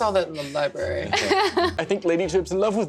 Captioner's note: laughter